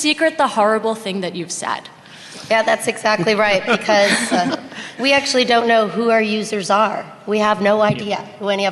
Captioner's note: laughter